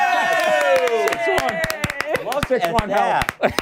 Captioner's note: laughter